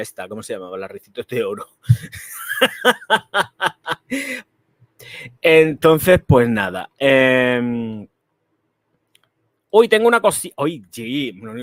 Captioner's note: laughs